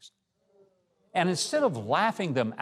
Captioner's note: audience murmurs